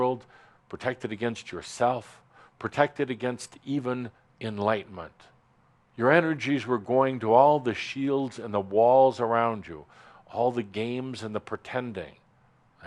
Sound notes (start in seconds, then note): none